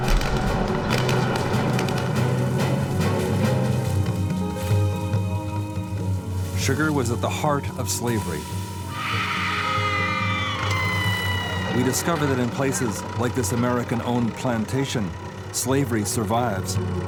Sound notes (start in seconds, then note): 0.0 explosions booming; 0.2 dramatic music; 8.9 woman screaming